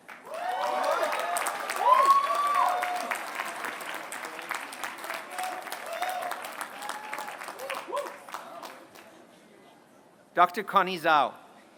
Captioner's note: applause